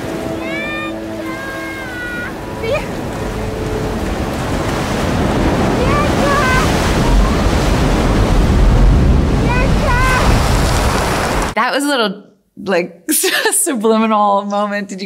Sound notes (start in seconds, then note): 4.1 waves churning